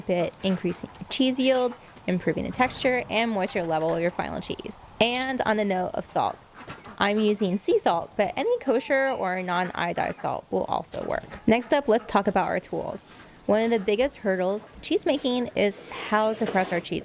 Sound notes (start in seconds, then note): 5.0 loud chirping